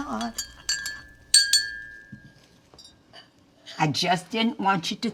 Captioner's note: spoon clinking